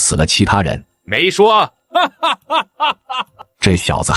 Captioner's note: laughs uproariously